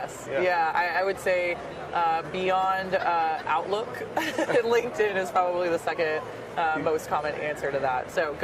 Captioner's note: laughs